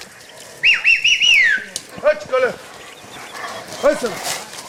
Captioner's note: drivers yelling